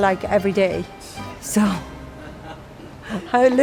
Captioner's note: chuckles